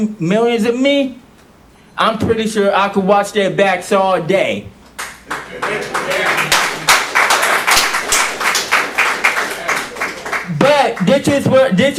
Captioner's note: applause